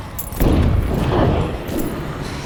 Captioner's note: loud thunderclap